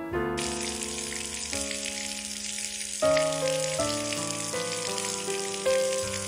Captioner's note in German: Geräusch von laufendem Wasser